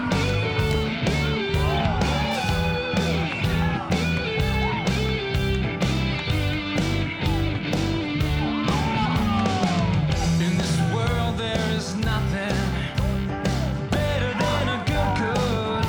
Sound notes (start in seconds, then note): 0.9 bouncy rock music; 7.9 people cheer